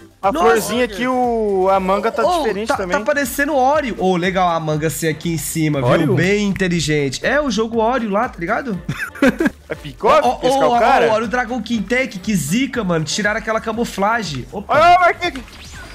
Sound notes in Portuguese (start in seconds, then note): 8.8 risos